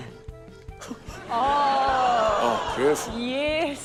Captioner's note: gasps